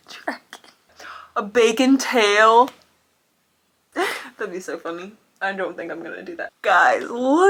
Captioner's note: gasp